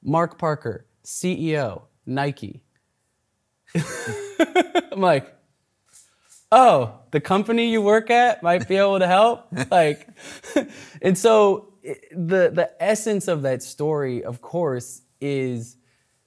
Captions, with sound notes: Mark Parker, CEO Nike. (laughs) I'm like oh, the company you work at might be able to help? And so, the essence of that story of course is